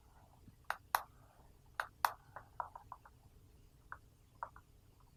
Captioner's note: computer mouse clicking